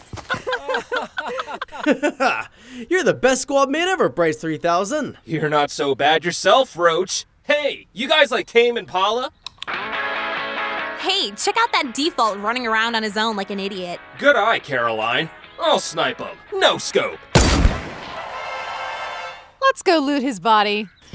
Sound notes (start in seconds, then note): 0.2 squad laughing; 9.6 upbeat rock music; 17.3 gun fires; 17.8 audience cheering